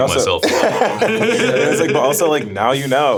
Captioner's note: steamers laughing